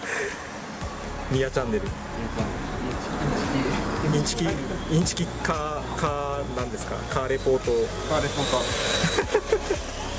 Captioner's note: laughs